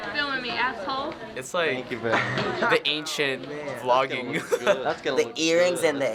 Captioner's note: laughs